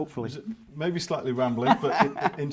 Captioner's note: laughs